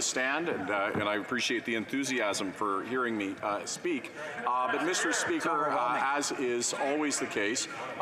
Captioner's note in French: voix de l'interprète